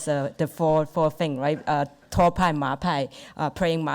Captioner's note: speaks Mandarin